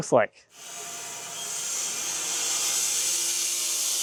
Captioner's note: saw buzzing